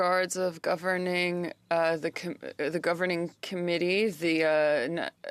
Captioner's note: speaking French